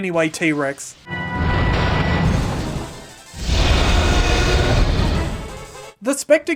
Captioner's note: furniture is knocked aside, followed by roaring